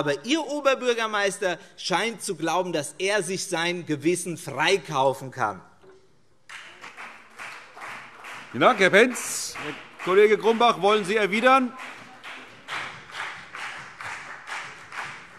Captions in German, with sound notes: aber Ihr Oberbürgermeister scheint zu glauben, dass er sich sein Gewissen freikaufen kann. [Beifall CDU] Vielen Dank, Herr Pentz. - Kollege Grumbach, wollen Sie erwidern?